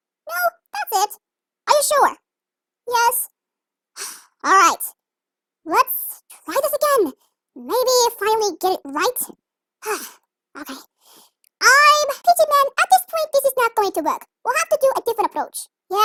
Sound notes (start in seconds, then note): 4.8 sighs